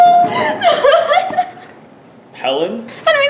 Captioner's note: cries